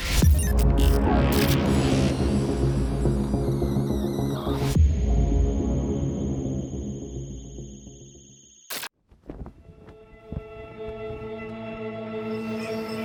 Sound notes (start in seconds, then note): 0.1 tense music; 9.0 flag flapping; 9.9 tense music